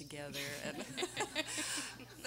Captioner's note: everyone laughing